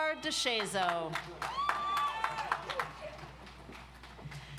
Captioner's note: audience applauds